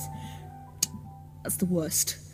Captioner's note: lip smack